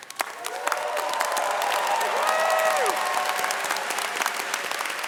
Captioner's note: audience cheering and clapping